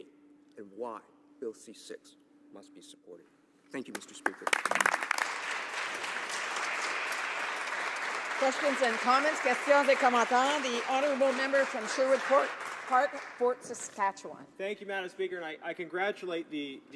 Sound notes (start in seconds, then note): 8.2 some Applause; 14.0 speaking in French